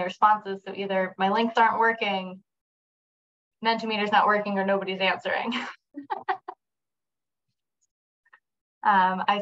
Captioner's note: chuckles